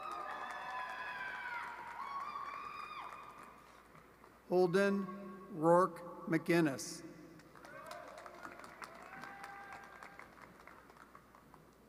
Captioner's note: applause